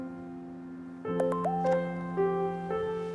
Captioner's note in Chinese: 訊息鈴聲